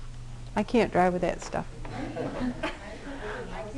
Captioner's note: laughter